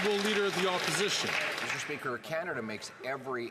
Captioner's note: some Applause